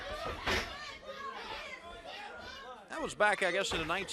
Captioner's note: crowd chatter